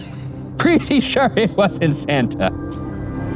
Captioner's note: laughs